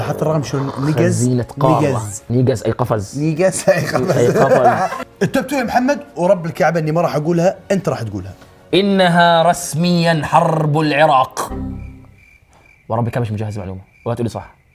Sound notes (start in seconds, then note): 3.6 laughs